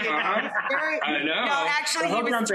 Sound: laughing

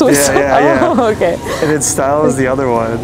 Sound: laughs

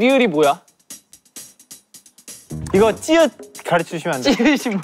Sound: mispronunciation

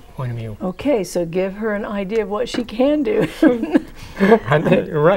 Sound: laughing

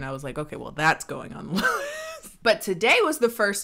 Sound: laughs

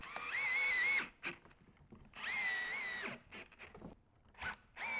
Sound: screwdriver buzzing

